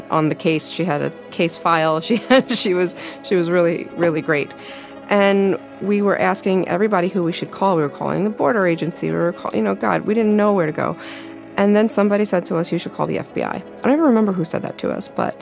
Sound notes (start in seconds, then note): 2.2 laughs